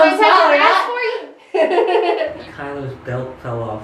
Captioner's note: laughs